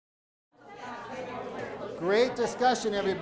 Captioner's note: people chattering